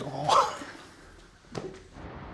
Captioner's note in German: lachen